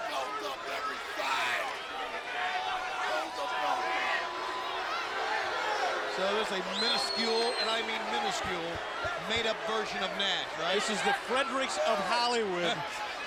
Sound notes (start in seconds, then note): 0.2 wrestlers chattering; 5.1 audience booing